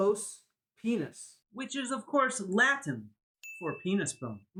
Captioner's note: ding sound